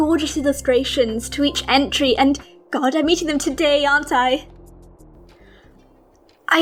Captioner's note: deep breath